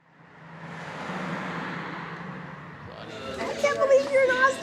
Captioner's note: car whooshes